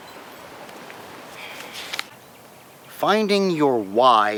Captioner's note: wind whooshing